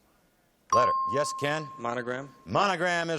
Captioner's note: ping